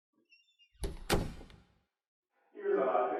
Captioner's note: door closes